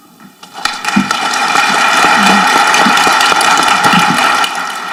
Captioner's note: audience clapping